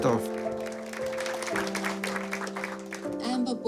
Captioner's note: applause